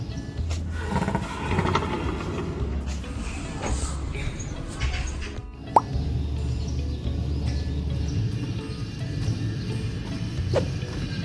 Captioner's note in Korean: 코끼리 코골이 소리